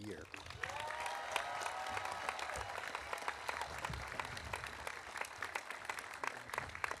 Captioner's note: audience applauding; audience cheering